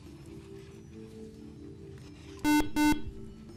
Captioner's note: beeping